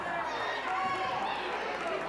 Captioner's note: crowd cheering